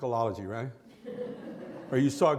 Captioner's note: laughter